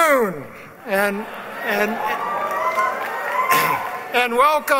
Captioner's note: cheering